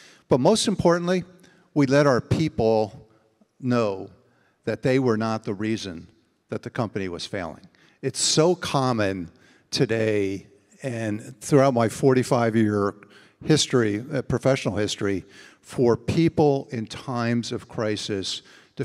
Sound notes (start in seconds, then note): none